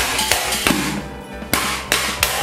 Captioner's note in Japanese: 小爆発音